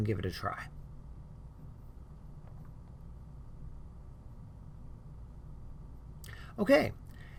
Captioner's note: no sound